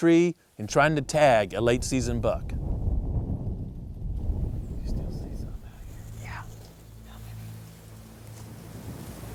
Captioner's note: whispering